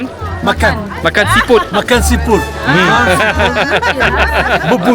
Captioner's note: laugh